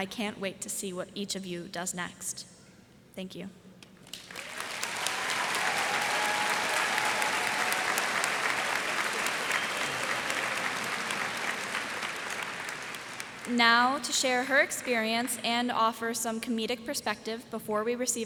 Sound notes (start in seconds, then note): 4.0 applause